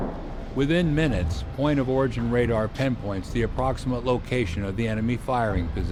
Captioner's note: voiceover